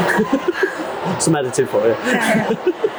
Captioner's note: chuckling